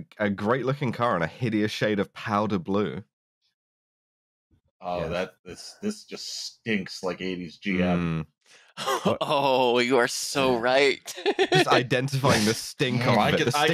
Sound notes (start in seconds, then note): 10.5 laughs; 12.7 sniffs